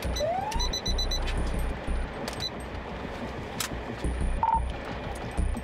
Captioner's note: sirens